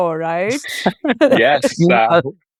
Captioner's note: everyone chuckling